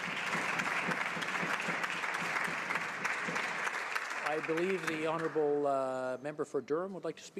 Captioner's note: some Applause